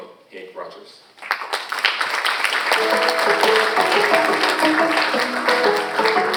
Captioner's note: cheerful music; audience applauding